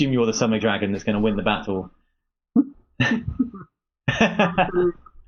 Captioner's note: laughing